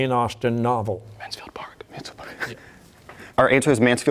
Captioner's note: whispering